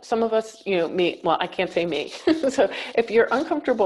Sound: chuckles

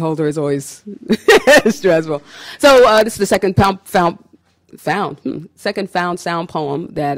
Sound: laughs

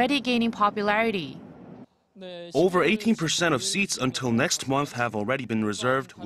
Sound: Korean

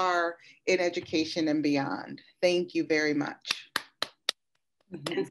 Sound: claps

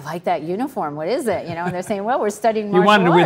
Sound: Tony laughs

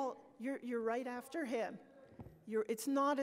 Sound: speaks off microphone; voiceover

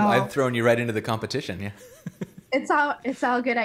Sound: laughs

